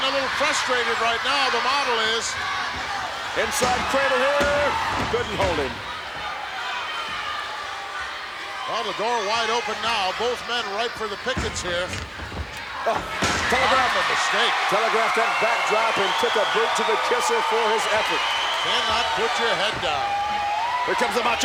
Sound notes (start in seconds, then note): 12.8 commentators exclaim